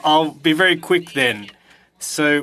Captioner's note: speaking French